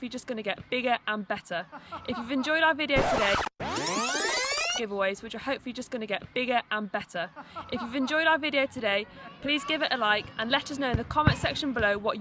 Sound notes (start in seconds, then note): 1.6 background noise laughing; 7.2 background noise laughing